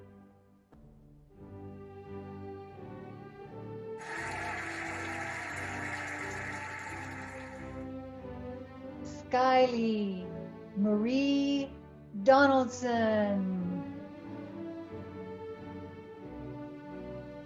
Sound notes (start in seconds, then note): 4.0 cheering and applauding; 14.4 cheerful music